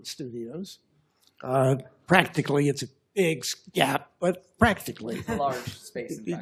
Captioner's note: laughter